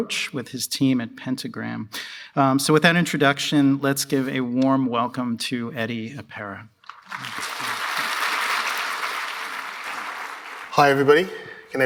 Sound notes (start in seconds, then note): 6.9 applause